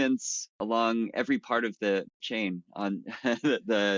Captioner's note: chuckles